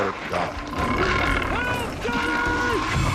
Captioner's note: bear growling